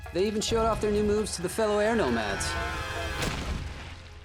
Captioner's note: screaming